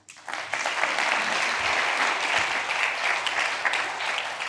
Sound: audience applause

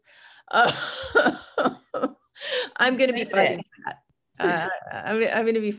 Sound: laughs

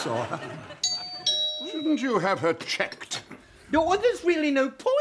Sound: doorbell rings

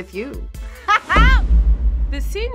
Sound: laughs

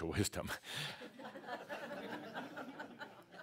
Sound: laughter

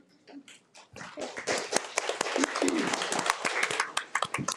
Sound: audience applauding

